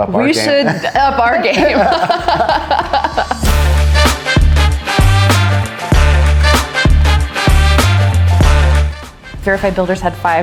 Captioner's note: laughs